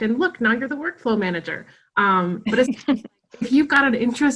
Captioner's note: laughing